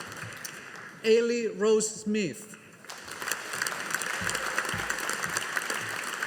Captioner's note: audience applauding